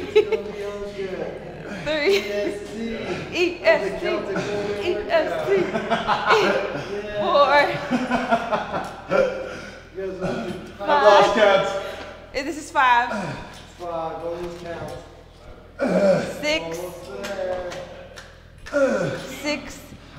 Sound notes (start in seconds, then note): 3.2 laugh; 8.5 laugh